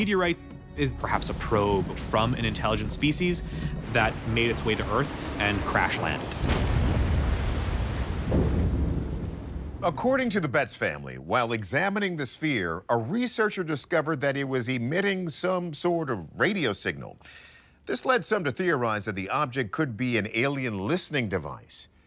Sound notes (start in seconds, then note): 6.1 explosion booming; 6.1 water splashing; 7.9 static crackling